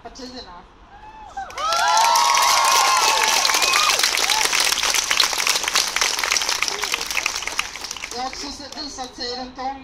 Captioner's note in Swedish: Jubel och applåder